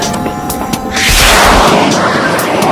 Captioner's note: rocket taking off